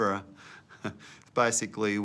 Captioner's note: laughs